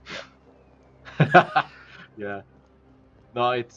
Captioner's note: laughs